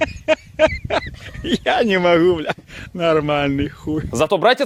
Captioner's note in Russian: смех